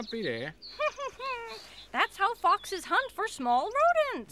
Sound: chuckles

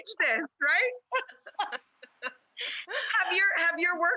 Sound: both speakers laughing

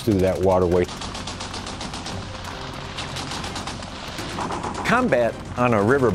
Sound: guns firing

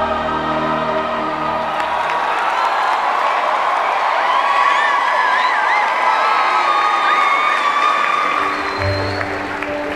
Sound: cheering

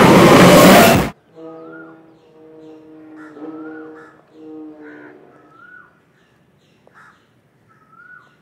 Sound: none

